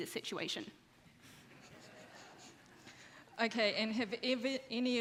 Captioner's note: audience laughs